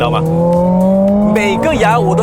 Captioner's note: revving to the highest note